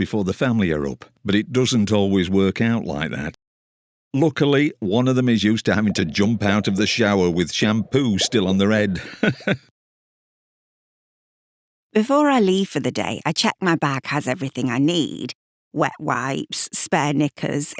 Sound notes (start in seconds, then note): 7.9 bubbles; 9.9 laughs